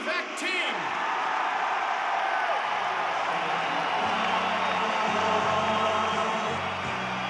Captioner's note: audience cheers and applauds; upbeat French vocal music